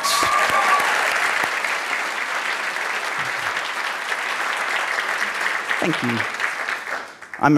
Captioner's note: applause and Cheering